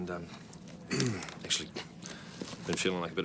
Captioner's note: clears throat